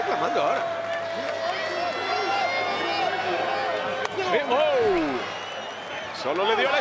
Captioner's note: applause